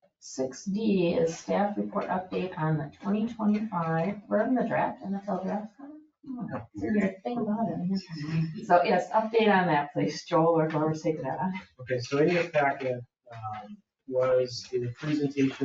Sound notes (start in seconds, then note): 8.1 people chuckle